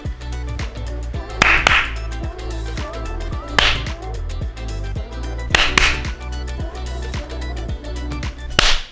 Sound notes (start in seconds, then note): 1.4 double Clap; 3.5 clap; 5.5 double Clap